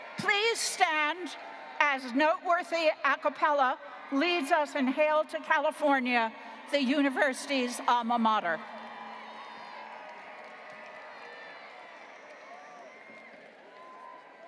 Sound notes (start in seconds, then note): 8.6 graduates cheering